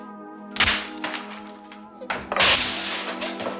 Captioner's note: sparkling; exploding